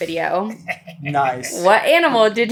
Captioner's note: chuckling